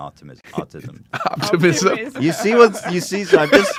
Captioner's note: both laugh